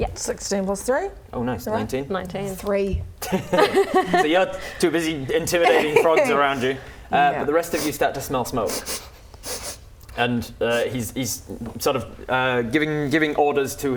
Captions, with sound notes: Yep 16 + 3? Oh nice, 19 19 3 *laughing* So you're too busy intimidating frogs around you But the rest of you start to smell smoke *sniff sniff* And he's sort of giving orders to